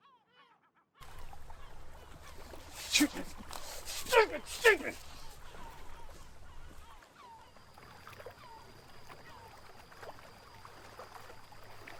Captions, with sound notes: - Stupid, stupid, stupid! (waves lapping)